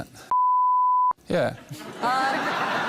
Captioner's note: laughter